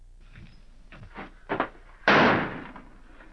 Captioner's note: thud